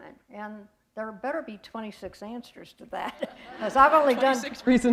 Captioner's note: chuckle